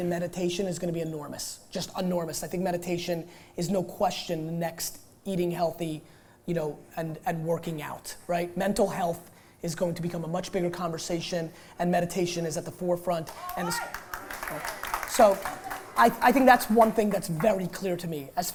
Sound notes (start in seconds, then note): 13.2 applause